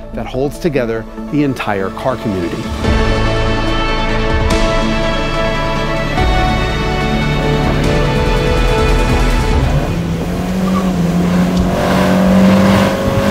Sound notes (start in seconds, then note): 3.0 dramatic music; 10.1 car revving